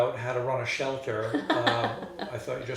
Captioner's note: laughing